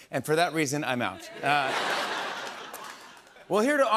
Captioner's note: laughter